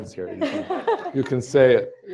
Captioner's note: laughter